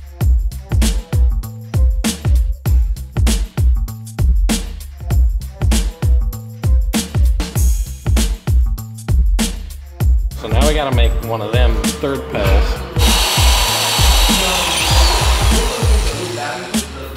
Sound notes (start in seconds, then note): 12.8 drill drilling